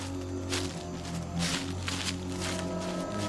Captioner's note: none